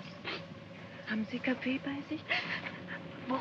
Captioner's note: speaking in German; woman sobs; speaking in German